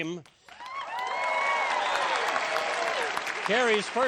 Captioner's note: applause